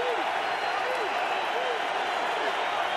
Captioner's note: crowd cheering